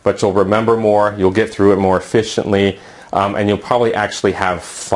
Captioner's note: uumm